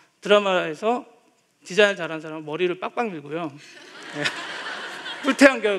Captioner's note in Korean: 웃음